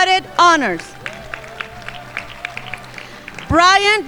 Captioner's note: crowd applauding